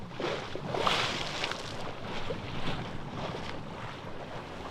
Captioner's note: wave splash